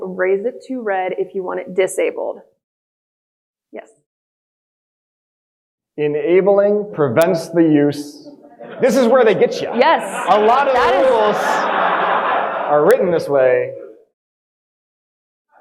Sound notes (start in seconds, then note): 10.0 audience speaking